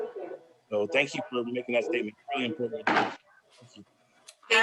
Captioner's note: faintly speaking